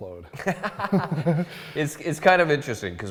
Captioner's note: laughs